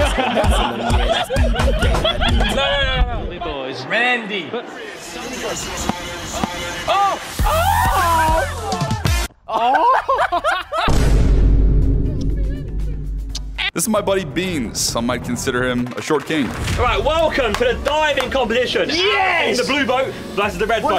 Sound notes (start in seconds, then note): 0.0 upbeat music; 0.0 Sidemen laughing; 4.6 upbeat music; 6.4 ball thuds; 7.4 upbeat bass music; 7.5 Sidemen cheer; 9.4 laughs; 13.3 loud kisses